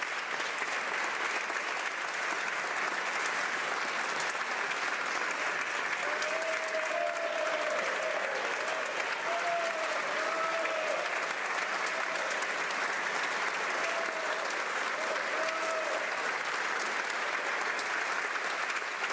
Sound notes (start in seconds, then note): 3.3 applause